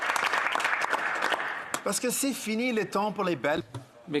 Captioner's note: some applause